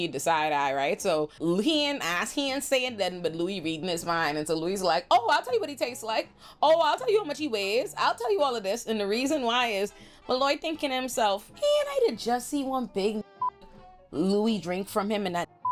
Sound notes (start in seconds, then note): 13.2 beep; 15.5 beep